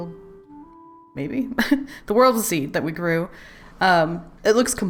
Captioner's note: laughs